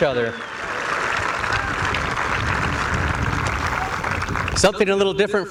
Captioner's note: applause